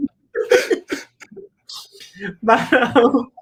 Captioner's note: both laugh